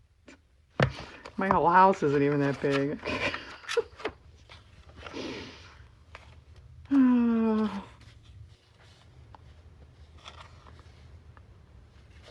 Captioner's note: laughs